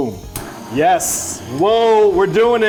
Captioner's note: blow torch sound